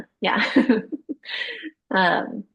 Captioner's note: laughing